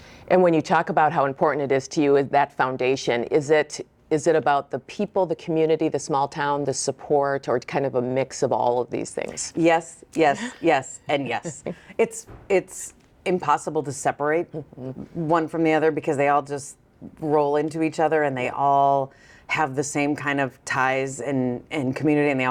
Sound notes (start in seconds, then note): 11.2 chuckles